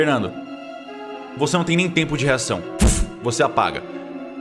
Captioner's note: thud